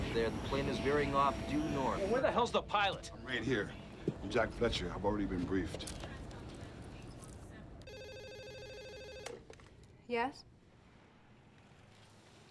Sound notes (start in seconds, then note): 7.8 telephone rings